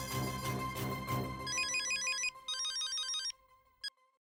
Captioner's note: mobile ringing